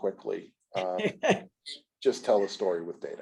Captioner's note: laughs